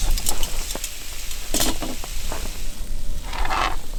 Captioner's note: griddle sizzling